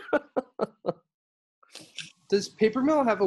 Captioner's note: laughter